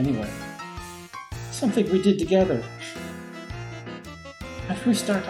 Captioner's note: sniffs